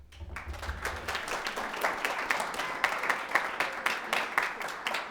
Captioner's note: audience applauding